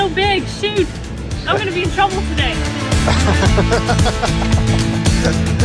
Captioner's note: laughs nervously